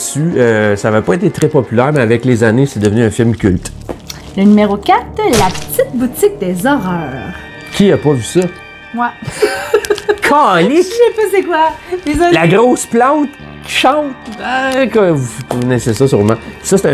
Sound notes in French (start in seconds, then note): 9.3 rire